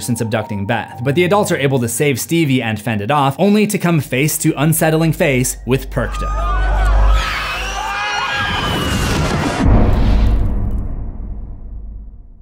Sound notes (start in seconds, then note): 5.9 shrieking; 5.9 shrieks; 6.0 all screaming; 9.0 impact